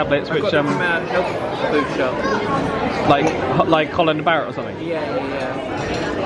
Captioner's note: none